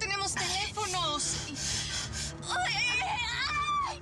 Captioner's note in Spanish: gemidos y gritos